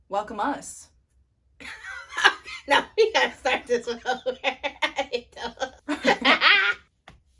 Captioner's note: laughing